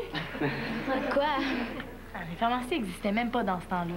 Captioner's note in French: Rires